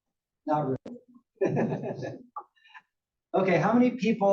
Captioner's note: laugh